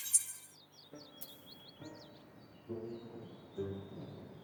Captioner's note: birds chirping